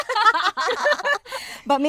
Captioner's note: girls laughing